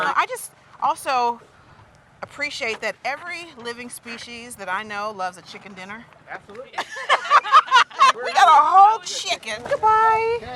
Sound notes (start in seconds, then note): 6.7 laughing